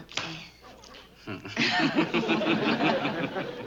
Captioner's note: laughing